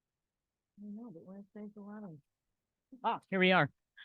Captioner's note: faintly speaking